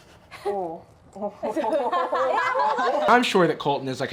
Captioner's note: friend speaking foreign language; chuckles; women laughing